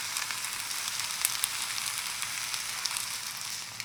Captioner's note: food sizzling